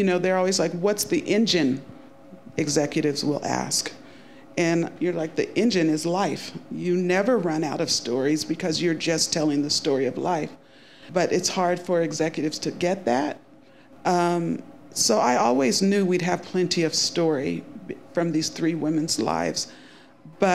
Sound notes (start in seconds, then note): none